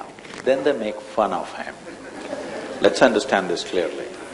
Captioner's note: few laugh